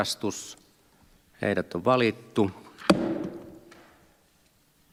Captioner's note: Nuijan kopautus